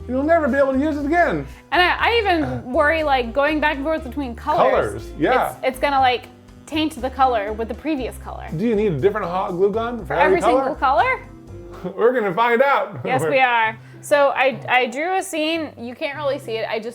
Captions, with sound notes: You'll never be able to use it again! And I even worry, like, going back and forth between colors. Colors, yeah. It's gonna, like, taint the color with the previous color. Do you need a different hot glue gun for every color? For every single color? We're gonna find out! (chuckling) Yes, we are. So, I drew a scene, you can't really see it, (cheerful music)